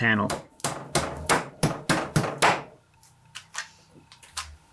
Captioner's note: bangs